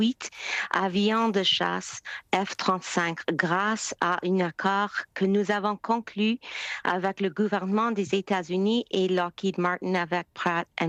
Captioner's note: speaking French